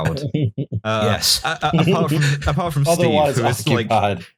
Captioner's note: laughter